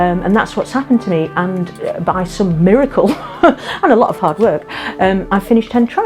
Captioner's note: laughs